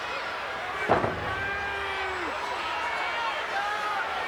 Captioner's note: fist pounding